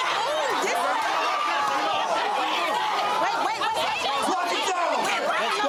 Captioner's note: screaming and fighting